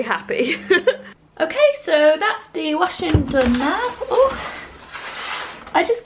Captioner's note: laughs